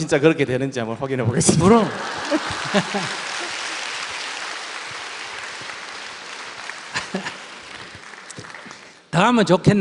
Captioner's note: audience Laughter and Applause